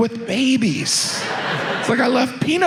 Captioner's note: audience laughs